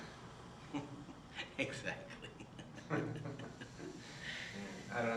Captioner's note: chuckles